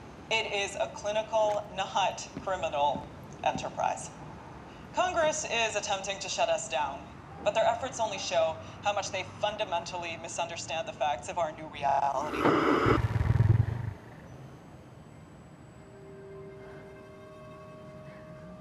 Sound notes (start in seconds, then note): 12.2 static on TV, turns off; 12.3 soft growl